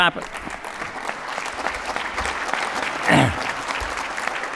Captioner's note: applause